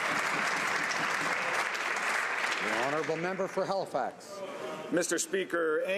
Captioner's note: some Applause